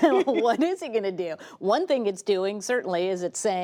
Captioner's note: laughter